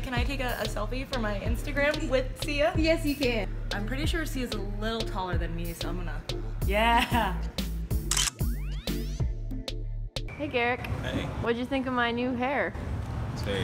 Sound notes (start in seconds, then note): 8.0 camera snaps